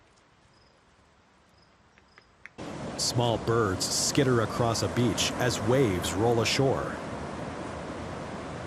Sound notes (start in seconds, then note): 2.5 waves lapping